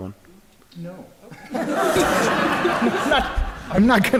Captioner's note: laughter